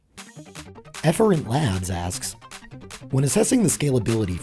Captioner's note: voiceover